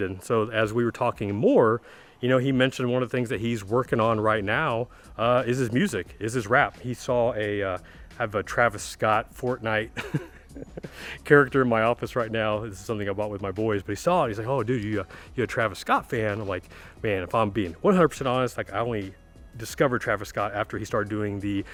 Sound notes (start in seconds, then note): 10.0 laughing